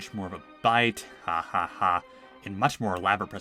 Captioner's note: sarcastic Laughing